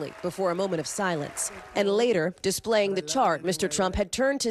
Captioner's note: applause